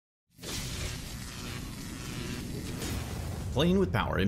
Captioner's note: electricity zapping